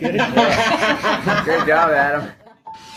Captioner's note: all laughing